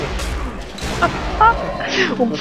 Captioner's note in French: Rire